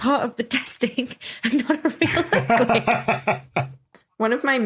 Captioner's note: laughs